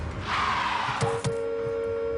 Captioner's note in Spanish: Chasquido de llantas; Sonido del claxon